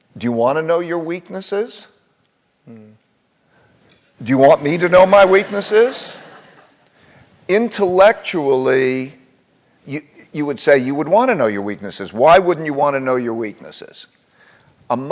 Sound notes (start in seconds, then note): 4.7 laugh